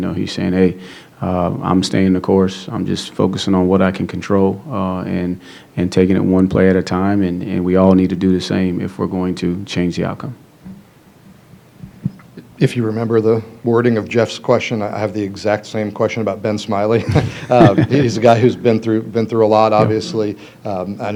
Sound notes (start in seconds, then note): 16.9 laughs